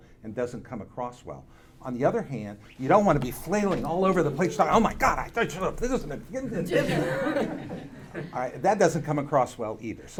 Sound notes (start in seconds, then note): 5.6 speaks gibberish; 6.4 audience laughing